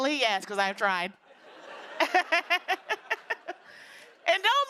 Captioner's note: laughter